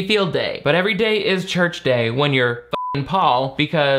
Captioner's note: beep